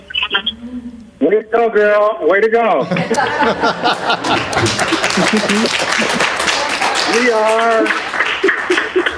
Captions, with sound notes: Way to go, girl. Way to go! (laughing) (clapping) We are